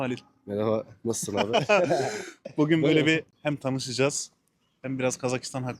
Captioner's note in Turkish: kahkaha